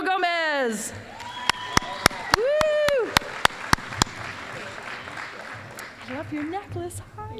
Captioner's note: applause